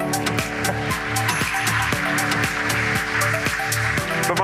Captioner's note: applause